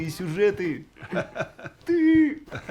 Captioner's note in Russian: смех